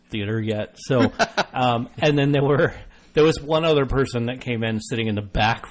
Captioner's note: laughs